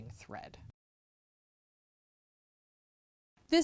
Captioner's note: no Sound Present